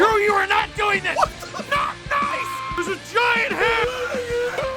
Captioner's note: Harry potter screaming; screaming